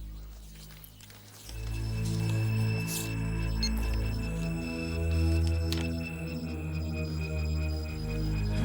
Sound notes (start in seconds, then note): 3.2 recorder beeps